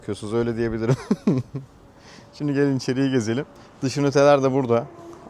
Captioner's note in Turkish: kahkaha